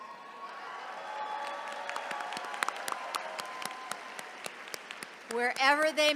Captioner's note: all cheering and applauding